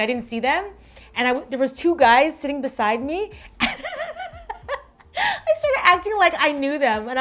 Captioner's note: laughs